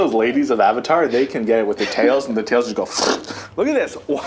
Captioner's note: slurping sound